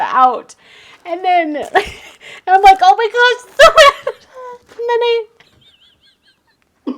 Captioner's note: laughs